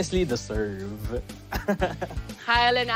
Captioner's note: chuckles